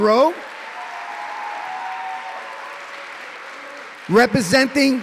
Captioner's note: cheering